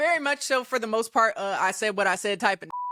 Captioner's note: beep